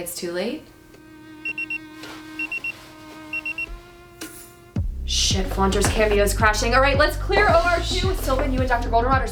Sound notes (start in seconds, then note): 2.3 Pager beeps